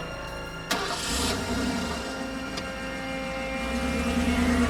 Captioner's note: engine revving